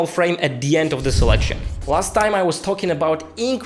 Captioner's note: air whooshing